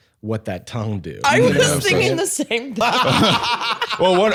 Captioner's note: laughs